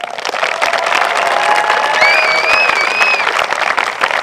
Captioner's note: applause